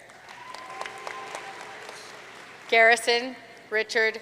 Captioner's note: audience cheering and applauding